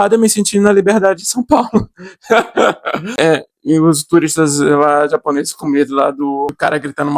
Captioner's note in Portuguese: risadas